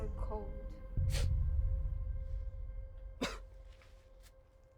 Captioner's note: sniffles